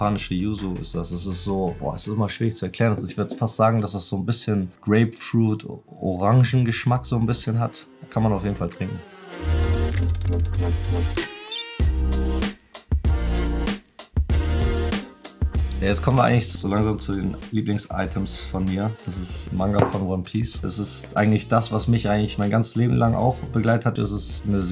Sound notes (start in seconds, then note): 0.2 speaking foreign language; 9.3 upbeat electronic music; 16.0 speaking foreign language; 20.9 speaking foreign language